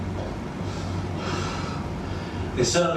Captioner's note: exhales